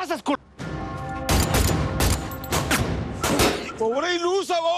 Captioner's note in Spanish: Disparos